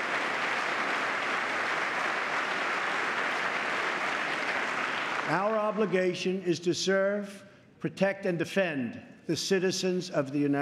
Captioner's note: applause